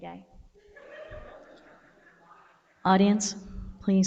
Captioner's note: audience laughs